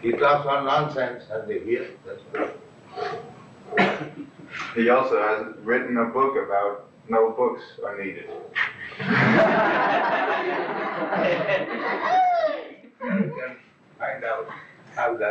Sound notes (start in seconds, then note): 8.8 laughter